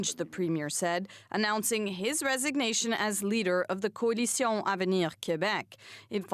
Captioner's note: speaking French